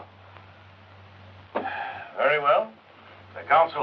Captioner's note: sighs